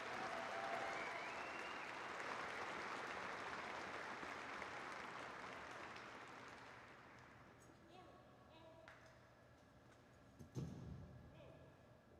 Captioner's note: applause